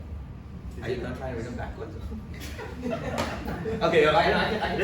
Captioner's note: audience laughs